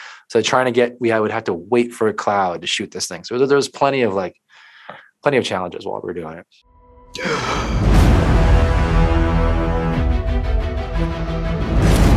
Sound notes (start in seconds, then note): 6.7 intrigue music; 7.1 exhales heavily